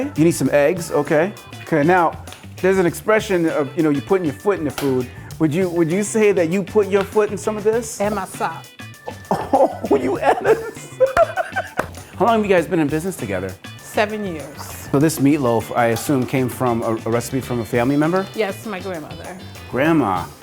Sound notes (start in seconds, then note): 10.5 laughing